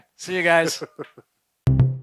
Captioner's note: laughs; upbeat music